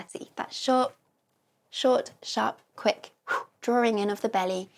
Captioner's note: exhale